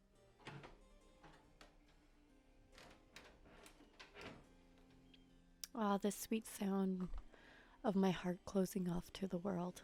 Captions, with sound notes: (Door groans and closes.) Ah, the sweet sound of my heart closing off to the world.